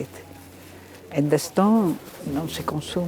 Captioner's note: speaking in foreign language